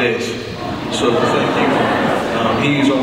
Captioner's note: audience laughs